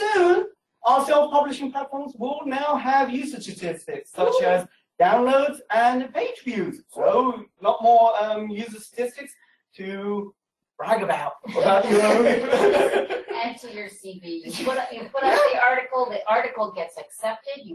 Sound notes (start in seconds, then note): 11.4 laughter